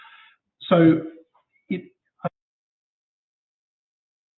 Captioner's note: audio drops